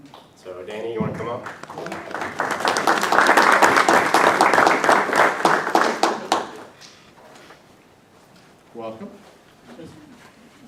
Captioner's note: applause